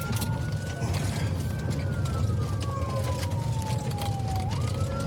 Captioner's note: siren wailing